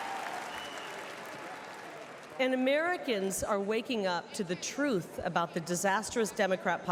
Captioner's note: applause